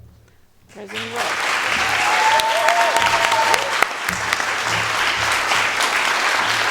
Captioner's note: audience applauding